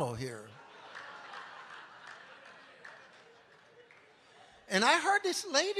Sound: congregation laughing

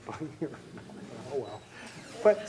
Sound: chuckling

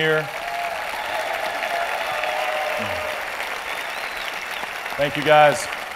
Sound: cheering and applause

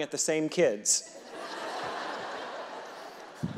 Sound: audience laughing; reverend laughing

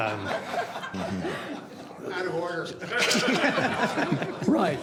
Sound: laughter

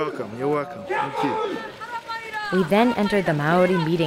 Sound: people calling out

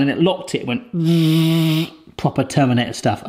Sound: vibration sound effect

